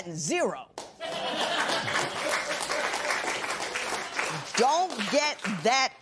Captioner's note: laughter and applause